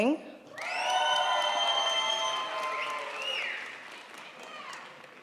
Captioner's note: crowd applauds